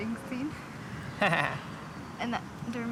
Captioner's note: laughing